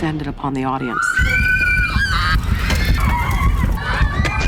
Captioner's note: screaming